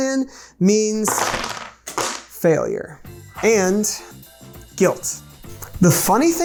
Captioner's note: wooden blocks clunking